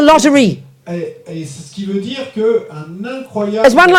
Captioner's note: speaking in French